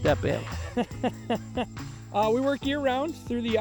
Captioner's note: man chuckles